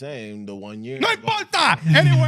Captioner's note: speaking In Foreign Language